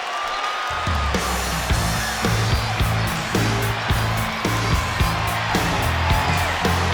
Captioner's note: crowd cheers; rock music plays